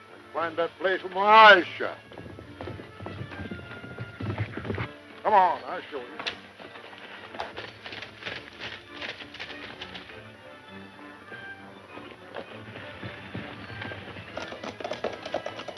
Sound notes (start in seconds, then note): 2.2 horse galloping; 7.1 exciting western music